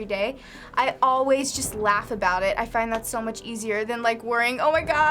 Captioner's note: none